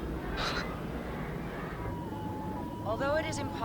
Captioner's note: Danny chuckles